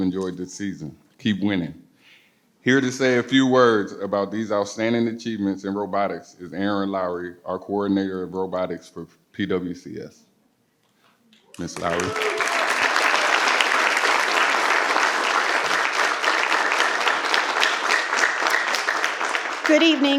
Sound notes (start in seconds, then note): 11.5 participants applaud